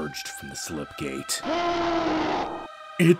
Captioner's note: Baron of Hell bellows